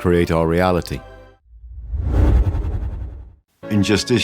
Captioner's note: whoosh sound